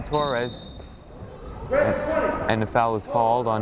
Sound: whistle blows

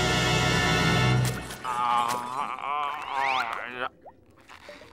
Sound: groaning

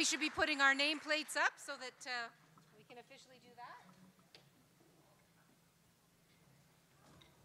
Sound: applause

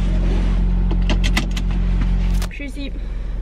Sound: seatbelt buckled

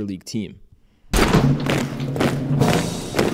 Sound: door opening, marching footsteps

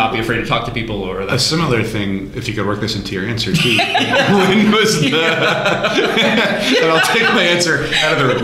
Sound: laughter

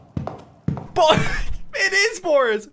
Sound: laughs

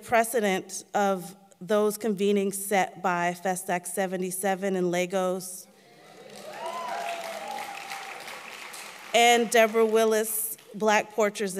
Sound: applause

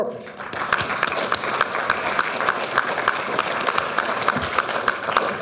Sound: audience applauding

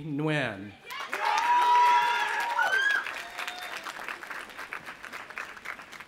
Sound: audience applauding and cheering

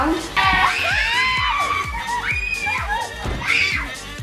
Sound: kids screaming

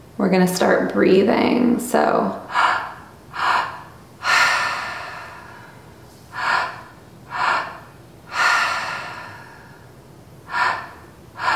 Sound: inhale; exhale

